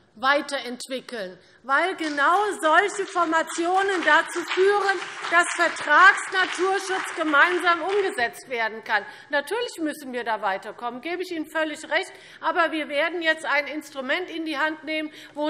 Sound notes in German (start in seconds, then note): 7.9 Beifall CDU und BÜNDNIS 90/DIE GRÜNEN